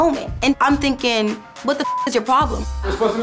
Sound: beep

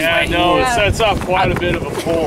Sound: chatter

